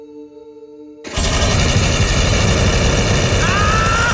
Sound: guns firing; maniacal laughter

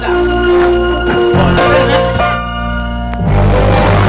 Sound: ball thuds; tense music playing

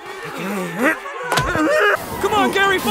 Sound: grunting

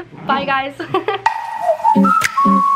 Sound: giggling; upbeat music

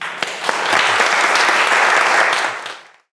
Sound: audience clapping

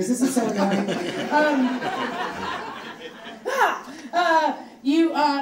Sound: audience laughing

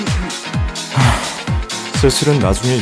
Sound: sigh

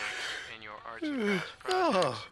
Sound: yawning

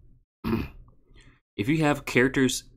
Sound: clears throat

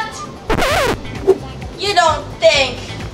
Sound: record scratches

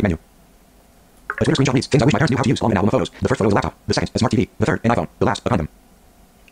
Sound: extremely fast speaking

